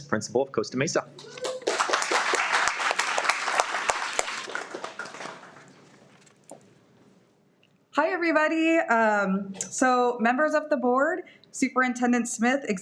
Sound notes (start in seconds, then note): 1.2 everyone applauds